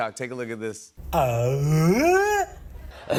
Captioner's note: all grunting